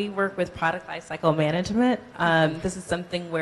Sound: none

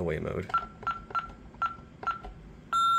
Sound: 6160VP Beeps; beep

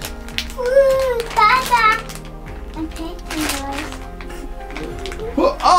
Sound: package crumpling

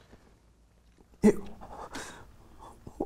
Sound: Rick sobbing

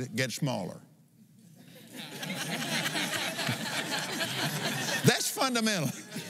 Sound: laughs

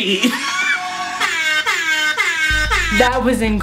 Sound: trap music; air horns

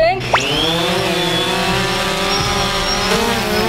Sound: drone whizzing

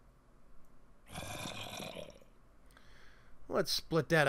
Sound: zombie growls

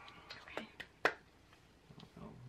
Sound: clap

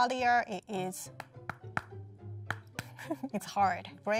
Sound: buns knocking against each other

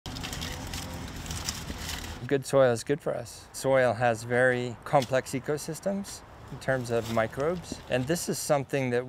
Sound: shovel digging

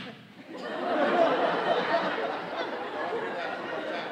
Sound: audience laughing

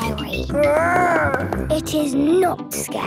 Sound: growls

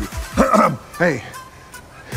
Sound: clears throat

